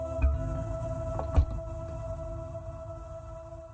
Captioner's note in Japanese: 扉の開閉音：バタン